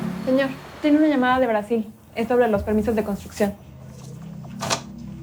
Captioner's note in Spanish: Sonidos del teléfono